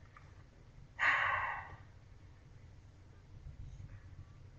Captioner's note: sighs